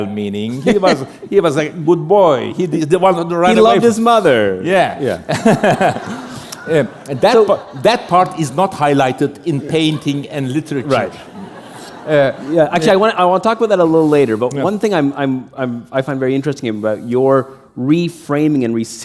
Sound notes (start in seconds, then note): 5.4 chuckle; 11.8 laughter